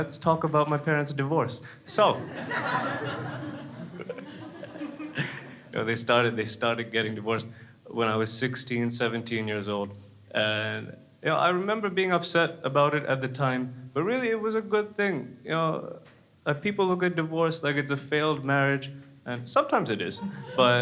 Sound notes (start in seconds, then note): 2.1 crowd laughs